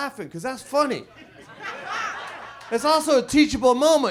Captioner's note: audience laughs